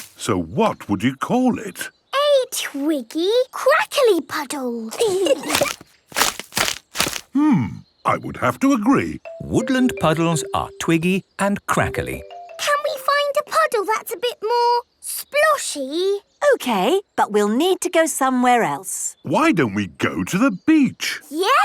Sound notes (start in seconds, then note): 4.9 kids giggling; 6.0 crackling